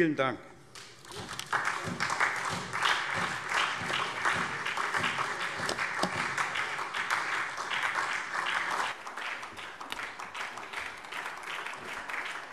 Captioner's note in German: Beifall SPD